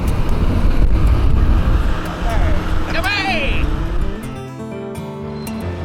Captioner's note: airplane engine drowns out speech